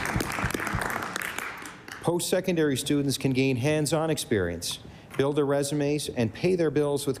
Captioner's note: applause